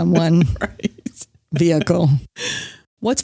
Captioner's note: laughs